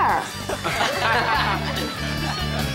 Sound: all laughing

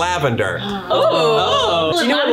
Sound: all exclaiming in surprise

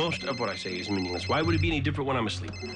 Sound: cell phone rings

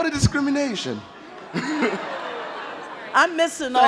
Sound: chuckles

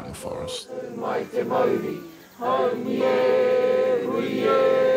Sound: crowd chanting

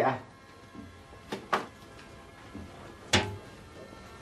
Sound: door opens, closes

